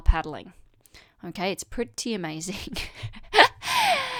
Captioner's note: chuckles